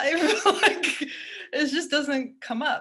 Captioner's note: chuckles